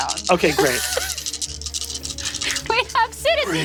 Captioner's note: dice rattling